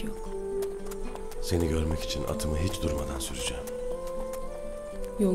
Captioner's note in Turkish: Ertuğrul iç ses